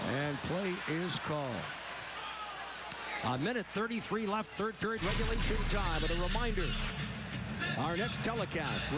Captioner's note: crowd noise